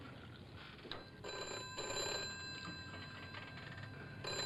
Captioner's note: phone ringing